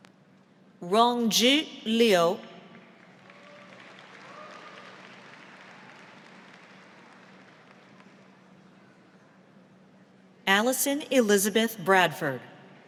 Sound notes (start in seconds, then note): 2.9 audience applauds